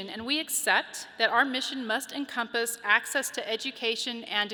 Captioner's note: none